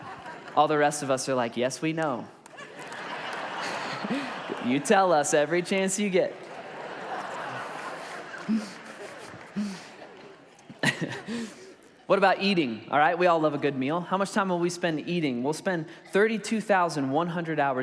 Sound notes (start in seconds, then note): 2.0 congregation laughs; 6.2 congregation laughs; 8.2 laughs